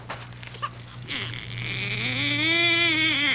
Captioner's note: humming; baby crying